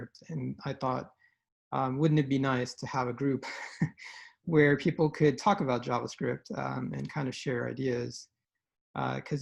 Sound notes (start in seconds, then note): 3.4 chuckles